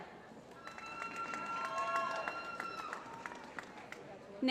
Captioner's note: applause